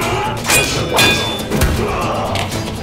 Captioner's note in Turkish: Dövüş sesleri